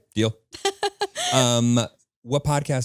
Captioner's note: laughing